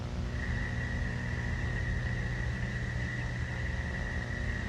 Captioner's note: crickets chirping